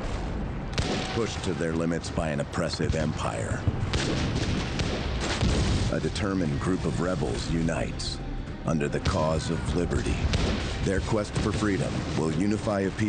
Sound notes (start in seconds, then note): 3.7 artillery blasting; 3.8 guns firing